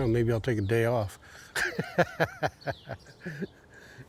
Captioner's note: chuckles